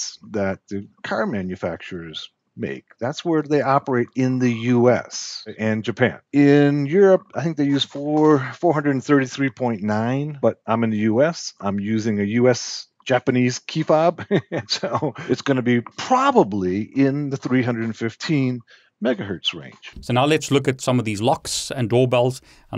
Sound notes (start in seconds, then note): 14.1 laughs